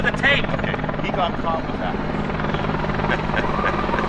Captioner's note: laughs